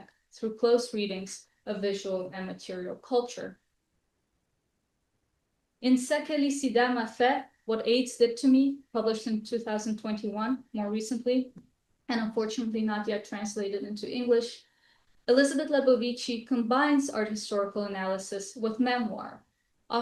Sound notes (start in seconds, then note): 6.1 french